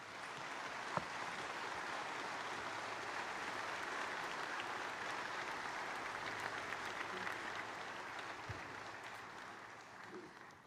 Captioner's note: applause